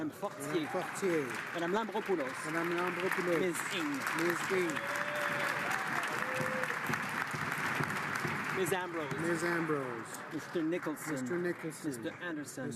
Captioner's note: some Applause